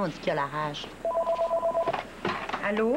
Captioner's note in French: Téléphone